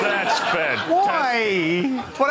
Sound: laughter

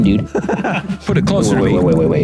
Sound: laughs

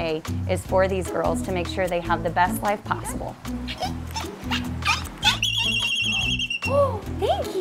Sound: Makana squeaks and whistles

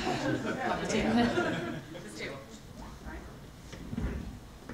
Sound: audience laughs

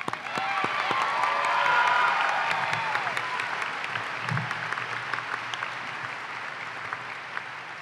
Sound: applause

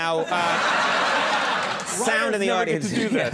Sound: audience laughs

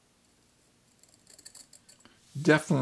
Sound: mineral scraping

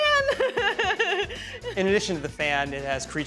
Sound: laughter

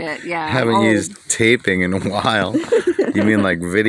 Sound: laughing

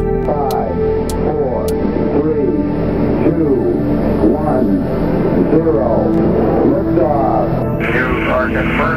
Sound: radio voice 2; radio voice 3

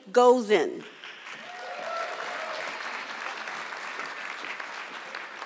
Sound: audience clapping

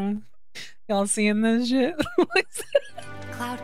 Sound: laughter

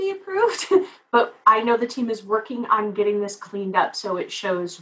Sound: laugh

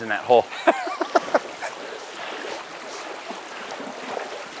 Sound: laughing

